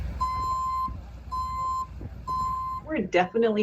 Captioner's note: truck alarm beeps